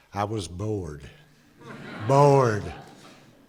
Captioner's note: laughter